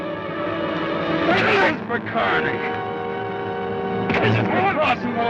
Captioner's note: Joshua groans